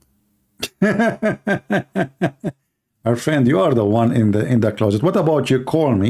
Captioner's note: Ketawa